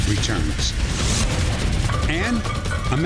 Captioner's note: whoosh